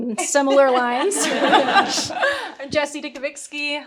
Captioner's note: panelists chuckling